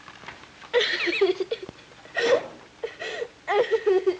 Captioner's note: crying